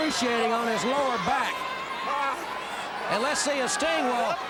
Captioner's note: crowd cheering